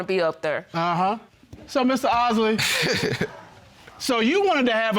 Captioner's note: osley laughs